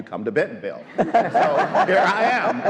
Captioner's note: all laugh